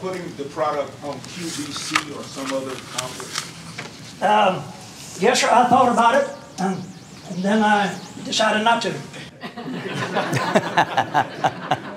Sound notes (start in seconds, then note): 9.2 laughter